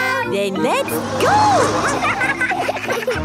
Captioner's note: laughing